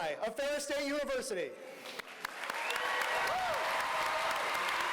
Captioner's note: applause